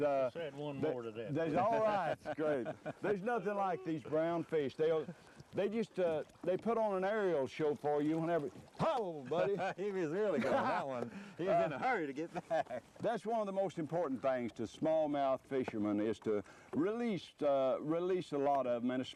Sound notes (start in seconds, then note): 12.2 laughter